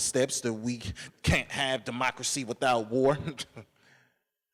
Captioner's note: laughs